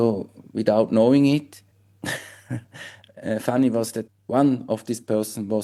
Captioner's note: laughs